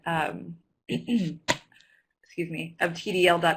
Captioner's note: clears throat